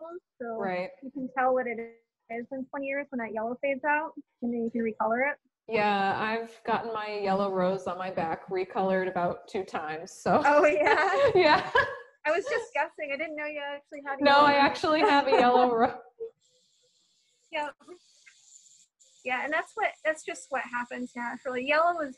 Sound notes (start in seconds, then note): 10.6 laughter